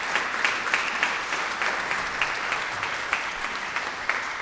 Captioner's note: audience applauding